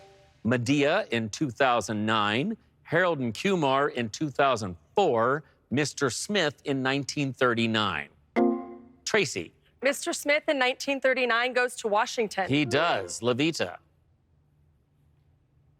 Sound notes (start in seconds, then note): 8.7 electric chime